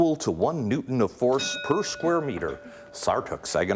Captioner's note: ding